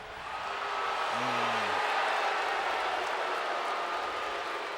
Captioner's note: crowd boos